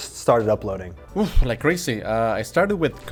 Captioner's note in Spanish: Exhala